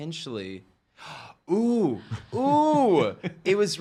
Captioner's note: gasps; laughing